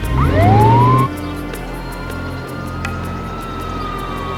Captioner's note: suspenseful music; siren wailing